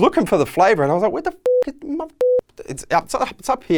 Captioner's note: beeping